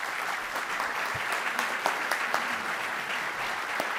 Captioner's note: audience applauding